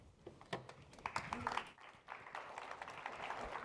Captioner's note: applause